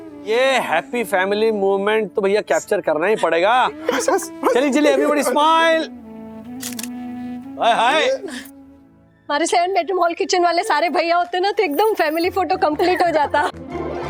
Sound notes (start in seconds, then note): 6.5 camera clicking